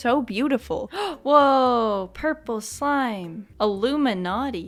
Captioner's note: gasp